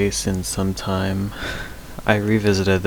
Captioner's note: sigh